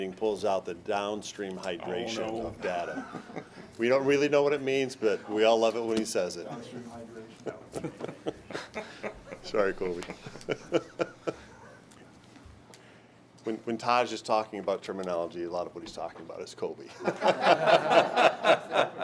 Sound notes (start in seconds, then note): 7.4 chuckling; 17.0 laughing